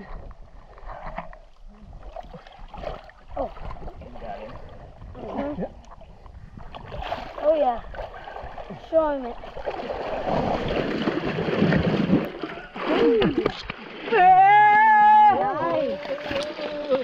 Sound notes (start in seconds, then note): 11.3 loud splashing; 14.2 cheering